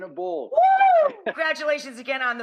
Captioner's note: cheering